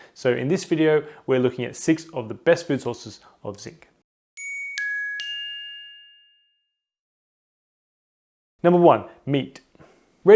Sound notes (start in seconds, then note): 4.4 soft chimes